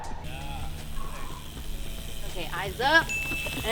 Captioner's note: shouting; wheels whizzing